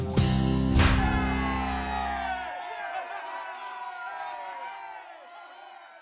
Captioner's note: audience applauding